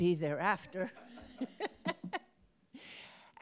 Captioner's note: laughter